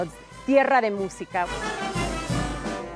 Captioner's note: speaking Spanish; brass band music